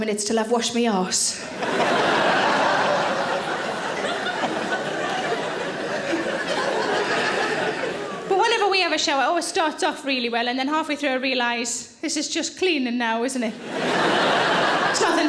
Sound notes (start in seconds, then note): 1.4 audience laughing